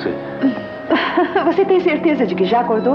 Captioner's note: laughing